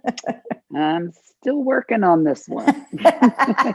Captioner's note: laughter